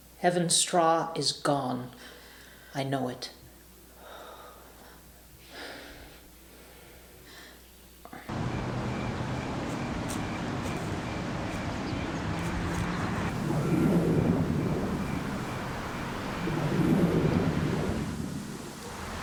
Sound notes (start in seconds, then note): 8.3 insects chirping; 12.8 orb whooshing